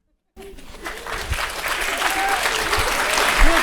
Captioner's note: people clapping